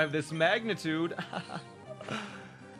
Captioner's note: laughs